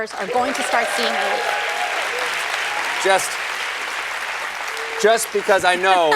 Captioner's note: applause